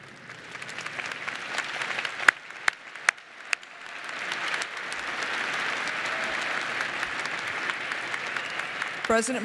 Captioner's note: applause